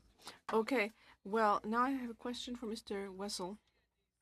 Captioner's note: speaking french